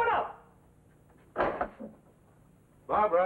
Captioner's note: door opens